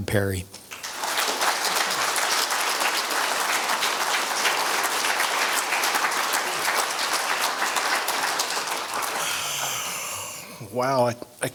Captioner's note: applause